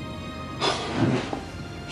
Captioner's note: <i> gasps</i>